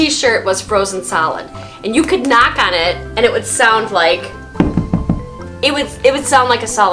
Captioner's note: knocking on floor